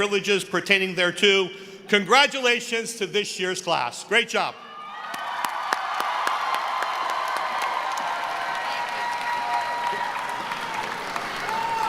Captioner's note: cheering; applause